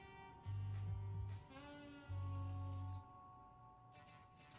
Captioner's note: whirring